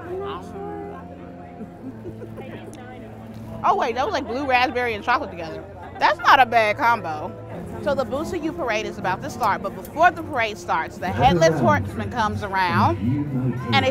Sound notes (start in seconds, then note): 1.4 laughs